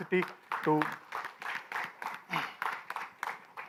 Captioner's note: clapping